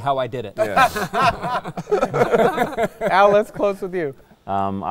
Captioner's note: all laughing